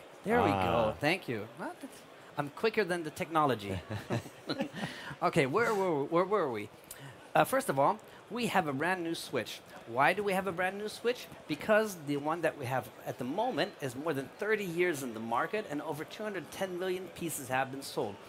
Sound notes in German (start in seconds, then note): 3.8 lacht